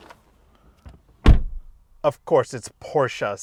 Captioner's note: door slams